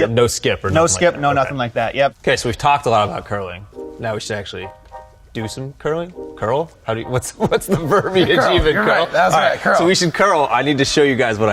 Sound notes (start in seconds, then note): 7.2 laughs